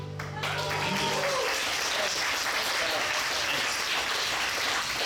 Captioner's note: audience applauds and cheers